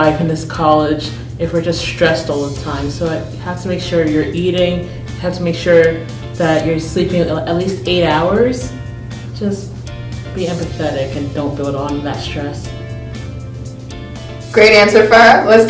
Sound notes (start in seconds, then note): none